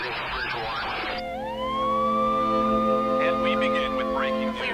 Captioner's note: sirens wailing